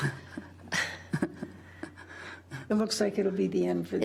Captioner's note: chuckling